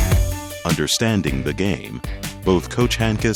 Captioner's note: voiceover